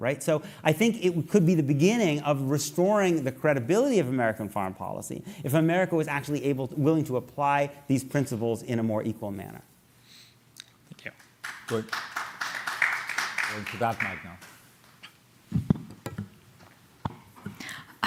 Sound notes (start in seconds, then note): 12.6 applause